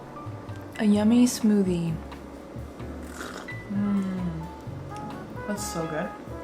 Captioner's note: sips